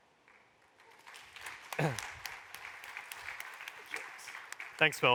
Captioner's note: applause